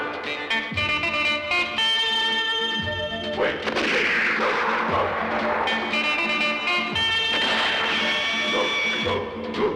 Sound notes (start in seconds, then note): 3.6 gunshot; 7.3 gunshot